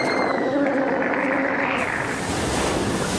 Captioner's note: screaming